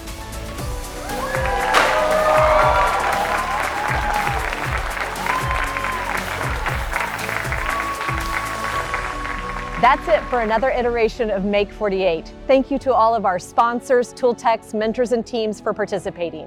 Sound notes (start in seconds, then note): 1.6 audience cheering; 3.1 confetti cannon pops; 4.3 audience applauding and cheering